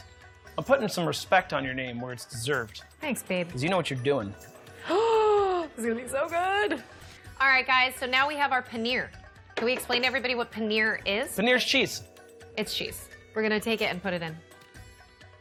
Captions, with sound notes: I'm putting some respect on your name, where it's deserved. Thanks, babe. Because you know what you're doing. [gasp] This is going to be so good. All right, guys, so now we have our paneer. Can we explain to everybody what paneer is? Paneer's cheese. It's cheese. We're going to take it and put it in.